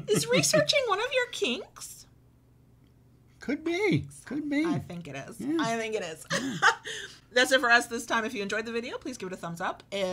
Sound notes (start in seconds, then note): 6.3 chuckles